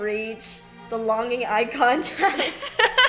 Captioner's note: laughs